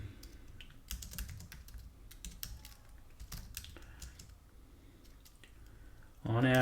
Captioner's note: typing